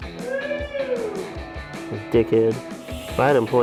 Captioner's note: man screams